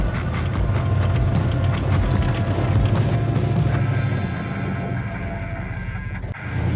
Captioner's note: upbeat rock music continues; engine rumbling continues